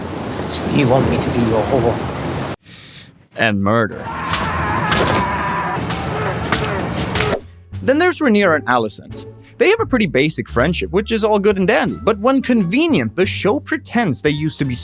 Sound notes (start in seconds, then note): 4.0 screaming